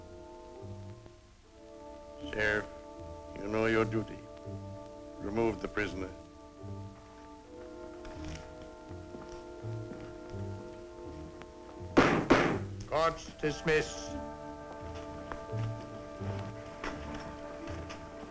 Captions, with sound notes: Sheriff, you know duty. Remove the prisoner. [SLAMS GAVEL] Court is dismiss.